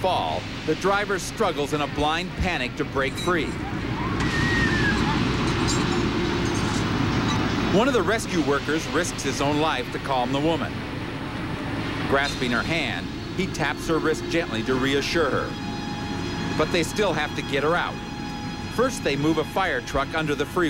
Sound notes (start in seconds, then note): 3.6 screaming